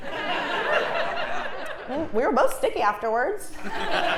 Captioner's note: laugh